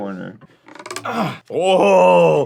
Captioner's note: sounds of reeds stretching